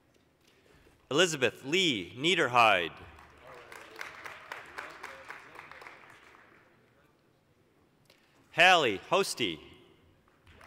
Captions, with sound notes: Elizabeth Leigh Neiderheide. (applause) Hailie Hoste.